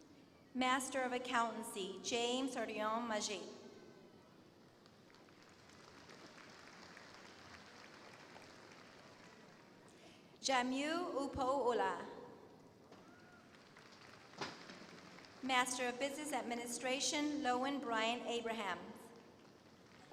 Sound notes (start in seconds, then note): 4.8 applause